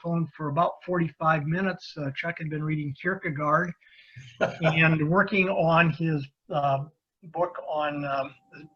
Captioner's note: laughing